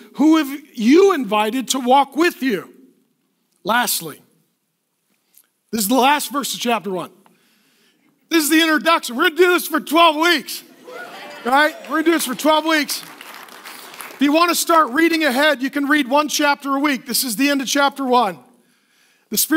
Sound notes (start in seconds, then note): 10.8 cheering; 13.3 applause